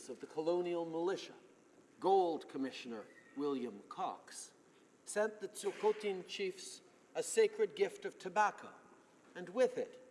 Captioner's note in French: voix de l'interprte